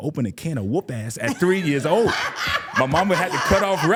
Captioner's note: laughing